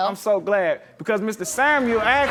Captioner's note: audience laughs